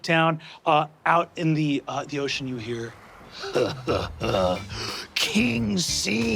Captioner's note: chuckling evilly